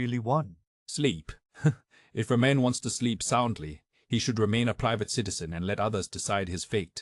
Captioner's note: chuckle